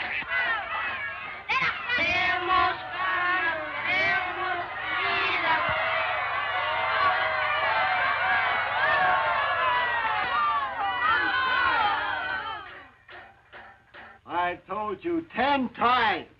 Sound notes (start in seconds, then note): 2.6 boys chanting slogans in Spanish